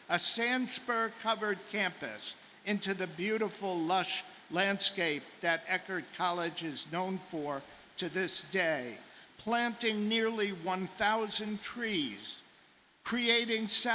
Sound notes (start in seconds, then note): none